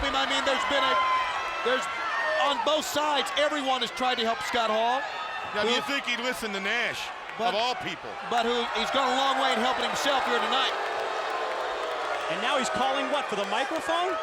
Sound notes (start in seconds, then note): 11.0 applause